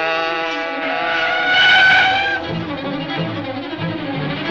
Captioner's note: tires squealing